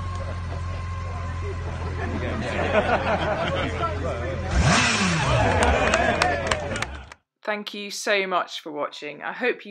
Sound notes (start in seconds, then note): 1.8 laughter; 4.7 even more revving & applause!